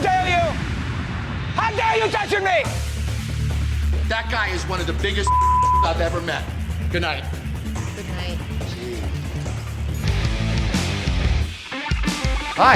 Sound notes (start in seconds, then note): 5.2 beep; 10.2 intense music